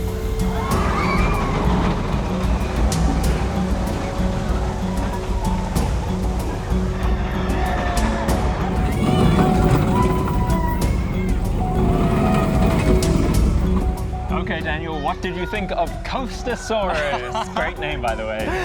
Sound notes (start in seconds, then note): 0.0 screams; 8.6 joyful screams